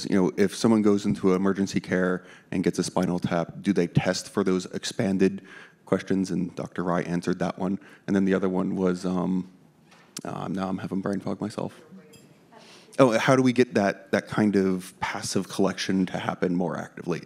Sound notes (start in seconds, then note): 12.0 participant speaks faintly